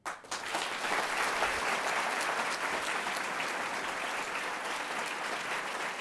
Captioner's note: audience clapping